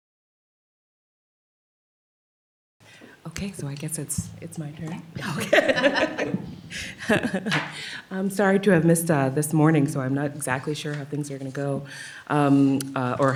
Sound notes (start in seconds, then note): 5.2 laughter